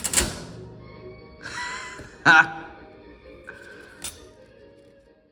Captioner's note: laughs in amazement